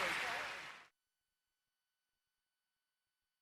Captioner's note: cheers and applause